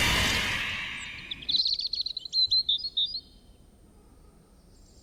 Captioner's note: birds chirping